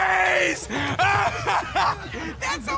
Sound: rocket laughing

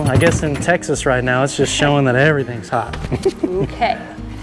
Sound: Jack laughs

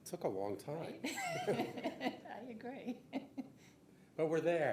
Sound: laughing

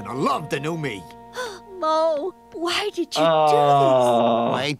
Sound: gasps

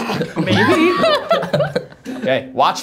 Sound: audience laughs

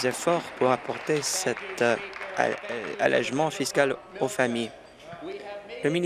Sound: applause

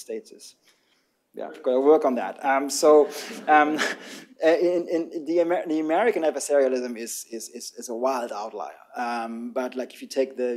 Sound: laughter

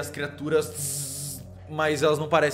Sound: electric noises

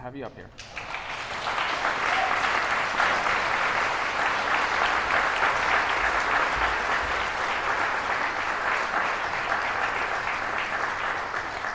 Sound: applause

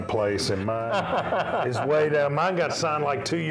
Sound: laughing

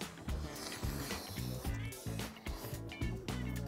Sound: slurping sound

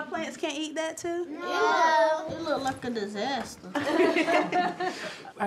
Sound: laughter

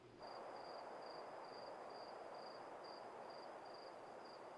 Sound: crickets chirp

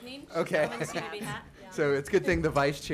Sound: laughs

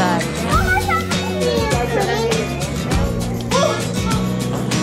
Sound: children exclaiming

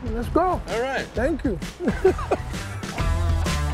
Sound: laughs

